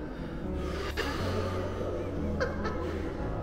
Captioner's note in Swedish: skratt